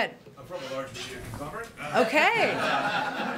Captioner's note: laughter